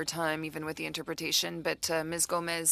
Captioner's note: speaking French